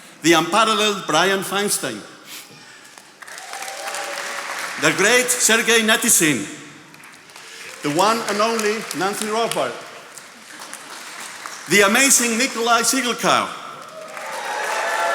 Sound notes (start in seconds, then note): 2.9 attendees applauding; 13.7 attendees applauding